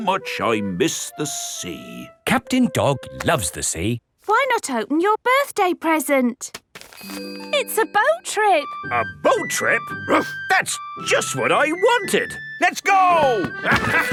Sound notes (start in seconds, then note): 10.3 barks